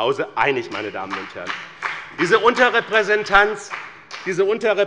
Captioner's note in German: Beifall bei der CDU und dem BÜNDNIS 90/DIE GRÜNEN